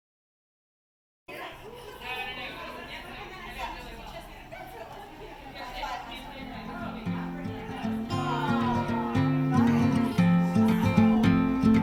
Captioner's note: chatter